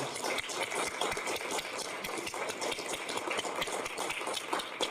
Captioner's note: audience clapping